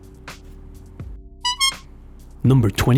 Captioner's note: honk